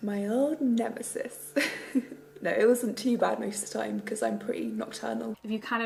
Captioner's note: laughs